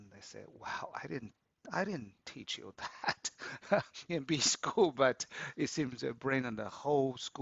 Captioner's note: laughs